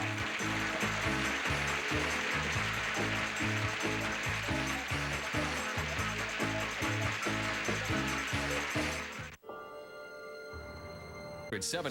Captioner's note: audience applauding